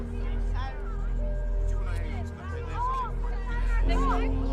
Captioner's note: people chattering faintly